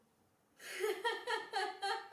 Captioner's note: I laugh